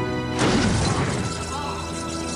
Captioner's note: <i> explosion, then screams